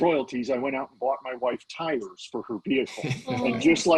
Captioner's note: laughing